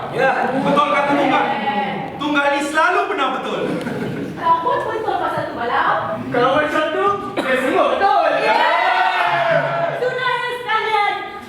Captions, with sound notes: Tunggal’s right! Tunggal is so frequently right! And you’re right about that too, Balau! In that case, we are all right! [ Animals cheer ] Well then, comrades!